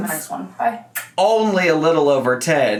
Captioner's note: kisses